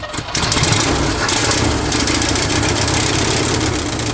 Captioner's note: engine turning over